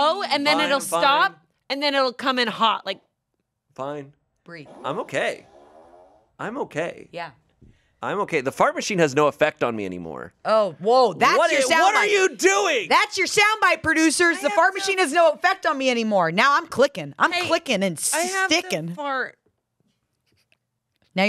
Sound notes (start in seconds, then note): 6.4 fart machine farts